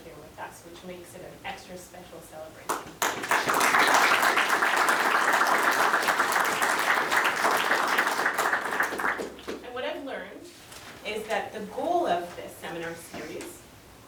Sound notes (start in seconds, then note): 2.7 applause